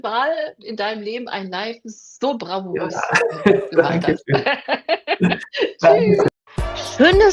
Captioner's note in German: gelächter